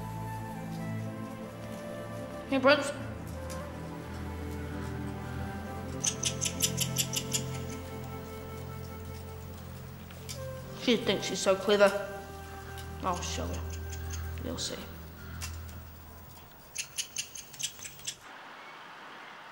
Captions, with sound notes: (gentle orchestra music) Here, Prince. (rat squeaking) She thinks she so clever. I'll show her. You'll see. (rat squeaking)